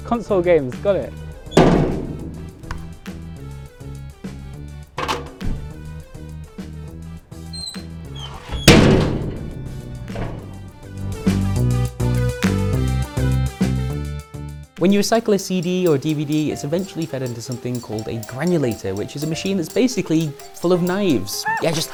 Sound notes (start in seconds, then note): 9.4 metal door closing; 11.9 joyful music